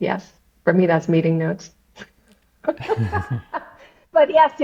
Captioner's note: laughs